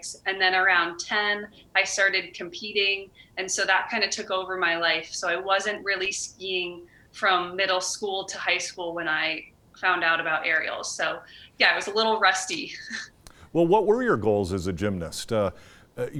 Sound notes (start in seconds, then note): 13.3 chuckling